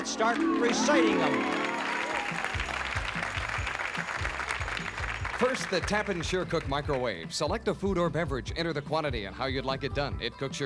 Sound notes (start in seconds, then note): 4.9 applause